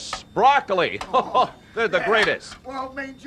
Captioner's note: laugh